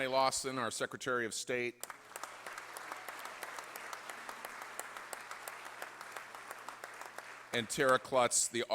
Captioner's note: applause